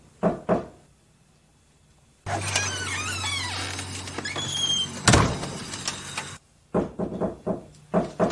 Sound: door closing; door knocking; door opening

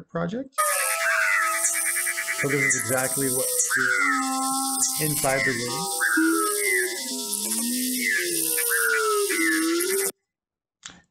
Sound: synthesized rainforest sounds

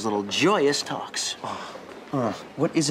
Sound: groaning

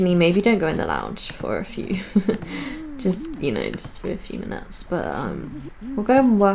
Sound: laughs

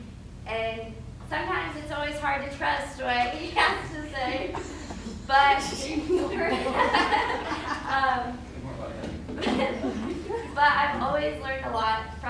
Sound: laughter

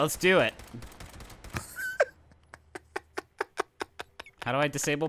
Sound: gun shots and laughing

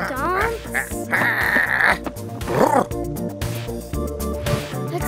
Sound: big Lizard growling and purring

